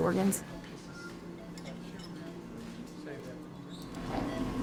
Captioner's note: beeping